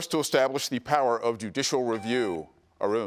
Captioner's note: buzzer beeps